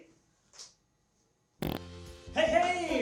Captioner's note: fart sound